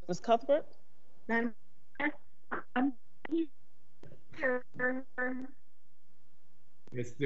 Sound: voice distorted

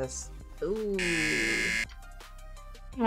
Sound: buzzer

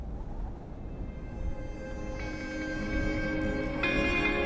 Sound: wind blowing; mellow music

